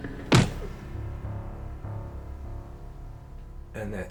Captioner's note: punch thuds